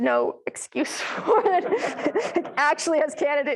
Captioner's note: and the audience laughing